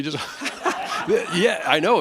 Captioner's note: laughter